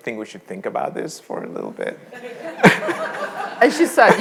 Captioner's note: all laughing